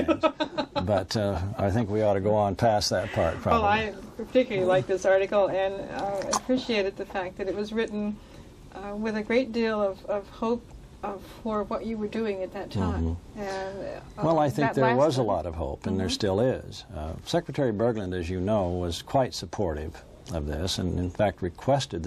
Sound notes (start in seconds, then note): 0.0 laughter